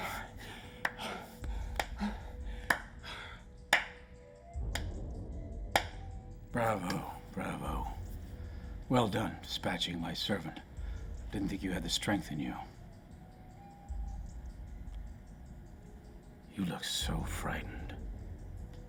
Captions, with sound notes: (hands clapping) - Bravo, bravo. Well done, dispatching my servant. Didn't think you had the strength in you. You look so frightened.